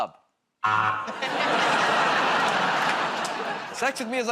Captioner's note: laughter, buzzer